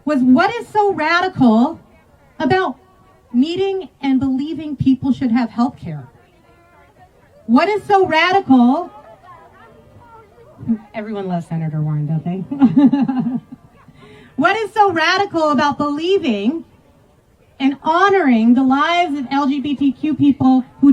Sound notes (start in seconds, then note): 12.4 laughs